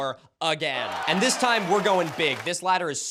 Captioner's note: applause